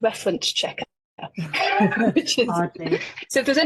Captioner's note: laughing